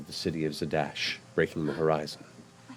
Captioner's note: gasps